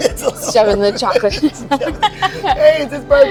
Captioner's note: both laughing